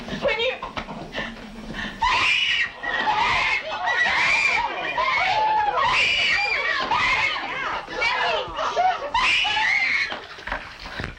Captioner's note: screaming